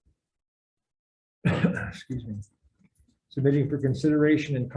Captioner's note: coughs